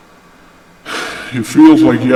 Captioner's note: sigh